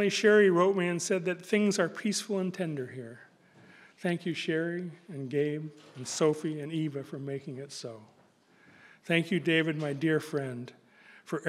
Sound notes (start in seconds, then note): none